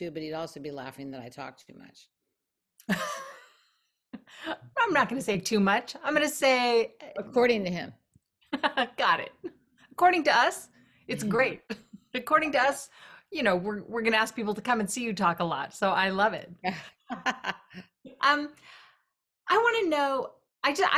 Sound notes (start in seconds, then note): 3.0 laughing; 16.7 laughing